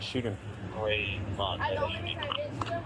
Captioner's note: radio chatter